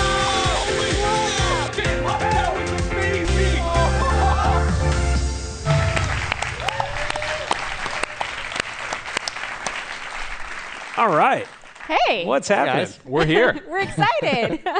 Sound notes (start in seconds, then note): 5.7 applause